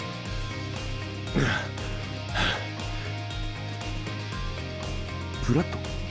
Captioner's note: pant, pant